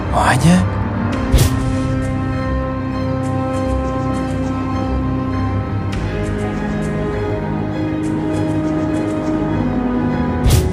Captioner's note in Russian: Разговор двух людей